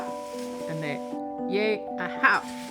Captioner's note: non-english